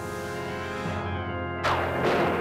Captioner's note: thunder rumbles